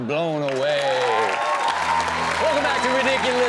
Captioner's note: audience cheers